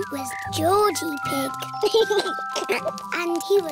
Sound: giggles

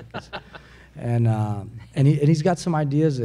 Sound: a few laugh

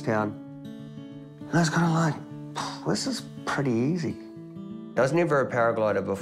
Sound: puffs

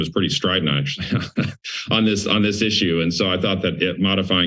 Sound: laughs

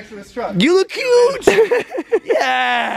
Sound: Logan laughs

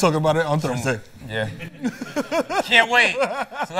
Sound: laughs

